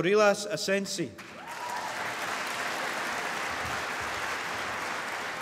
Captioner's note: applause